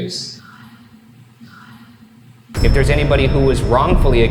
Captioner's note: ghostly whispering